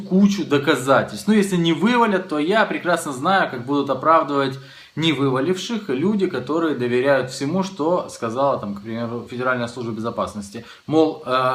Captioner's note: Russian